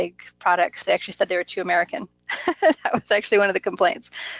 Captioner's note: laughs